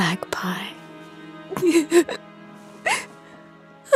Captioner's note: Neyrelle whimpering